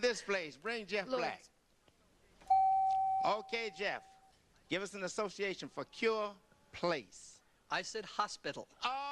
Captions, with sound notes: in this place. Bring Jeff back. -Lourdes. -(beep) -Okay, Jeff, give us an association for Cure Place. I said, hospital.